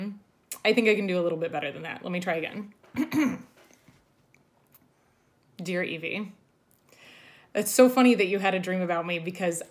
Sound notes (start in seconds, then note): 2.9 clears throat